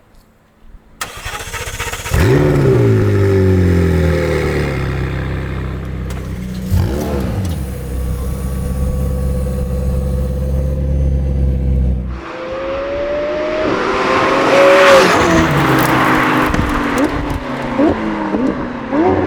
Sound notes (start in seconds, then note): 1.1 car starts; 2.6 whirring; 12.0 whirring